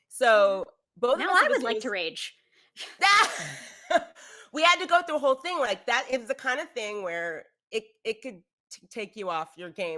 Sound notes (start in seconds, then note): 3.2 laughs